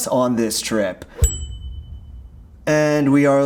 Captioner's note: bell dinging